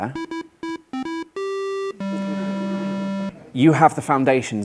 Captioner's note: loud beeping